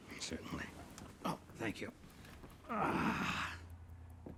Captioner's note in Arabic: تأوه